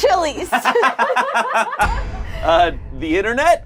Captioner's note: laughs